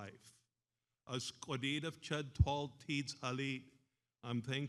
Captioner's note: speaks in foreign language